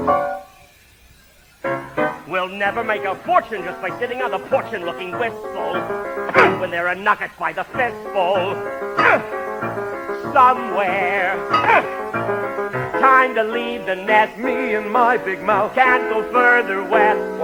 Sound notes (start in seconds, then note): 2.5 singing, bitterly; 6.3 grunts; 9.0 grunts; 11.5 grunts